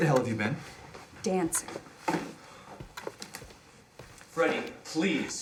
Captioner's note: Alan sighs